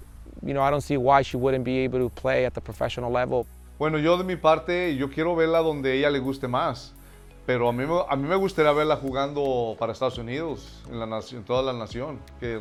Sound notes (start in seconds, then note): 3.6 foreign language